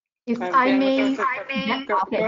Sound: video echoes

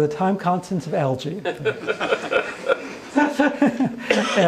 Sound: audience laughs

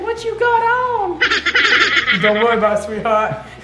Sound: manic laughing

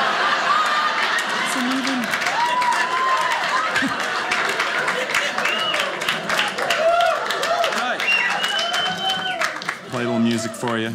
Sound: audience clapping

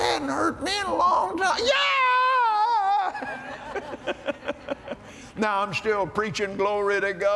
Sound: laughter

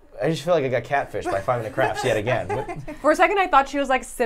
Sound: laughs

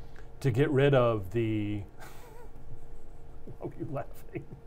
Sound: laughs

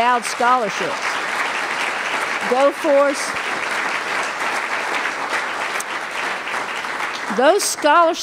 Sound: applause

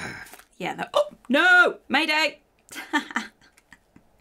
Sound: gasps; grunts; laughs

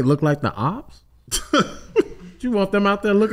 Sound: laughs

